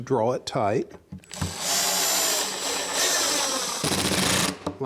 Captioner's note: drilling